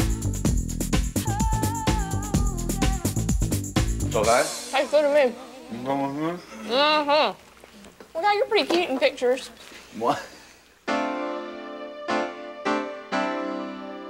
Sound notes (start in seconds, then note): 5.7 both mumbling; 10.9 upbeat music